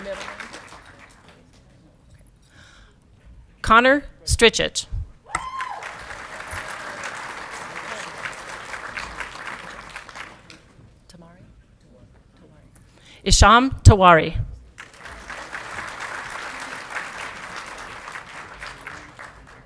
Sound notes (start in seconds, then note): 0.0 audience clapping and cheering; 5.3 audience clapping and cheering; 14.7 audience clapping